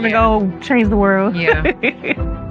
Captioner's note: laughs